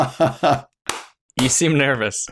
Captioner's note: laughter